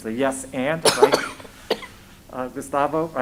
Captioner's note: coughs